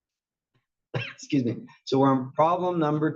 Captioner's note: cough